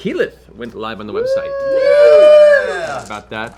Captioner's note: cheering